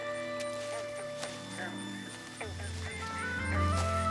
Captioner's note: frogs croaking